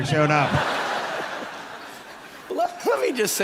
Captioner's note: people laughing